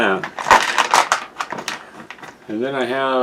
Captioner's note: beads rattling around